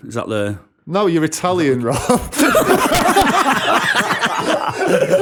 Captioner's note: laughter